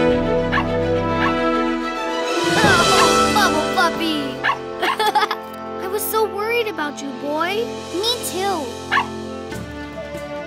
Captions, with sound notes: [barking] Oh! Bubble Puppy! [laughing] I was so worried about you, boy. Me too. [barking]